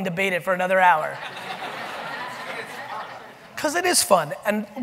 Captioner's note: audience laughing